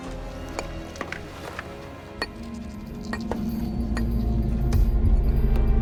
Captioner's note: chisel chinks against stone; epic music fades in